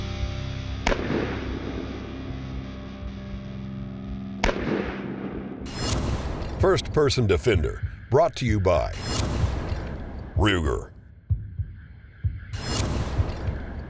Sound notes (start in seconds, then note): 1.0 gunshots